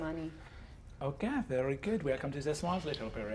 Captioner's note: French accent